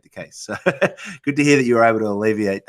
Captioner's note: laughs